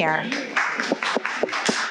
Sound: audience applauding

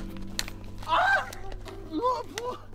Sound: scream

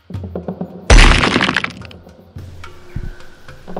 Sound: earth cracking

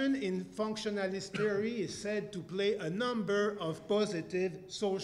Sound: cough

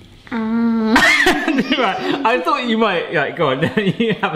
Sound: laughs

